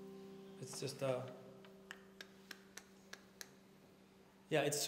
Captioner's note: clicks tongue